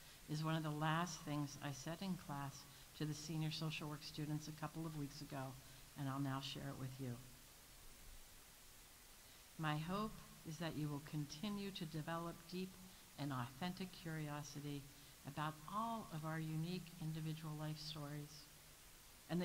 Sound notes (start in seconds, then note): none